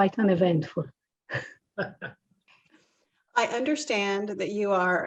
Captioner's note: laugh